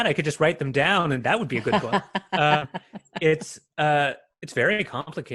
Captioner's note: laughs